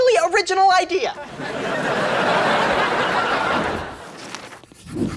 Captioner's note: audience laughs